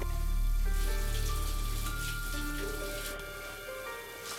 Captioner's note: water splashing